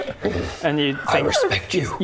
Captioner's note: dark affirmative grunt